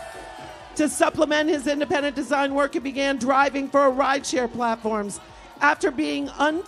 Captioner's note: applause